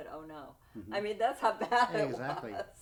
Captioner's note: laughing